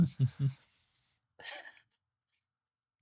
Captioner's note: laughs